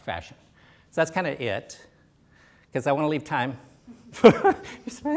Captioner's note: laughs